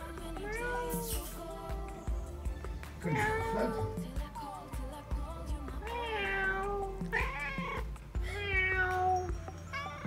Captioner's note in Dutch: maakt poezengeluidjes